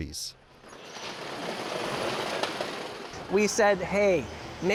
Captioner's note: conveyor roller rattling